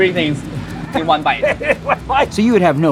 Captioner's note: laughing